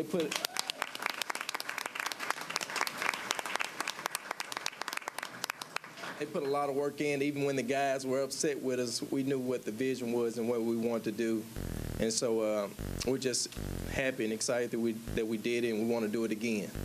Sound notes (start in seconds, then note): 6.6 applause